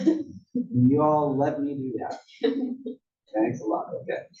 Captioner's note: laugh